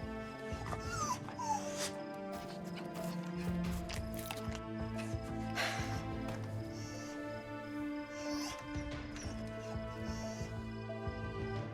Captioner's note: wolf whimpers; wolf whines; soft music